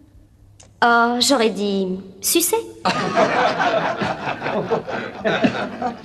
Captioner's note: laughter